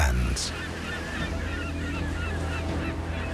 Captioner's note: birds calling